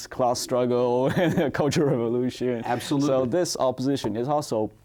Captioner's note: chuckles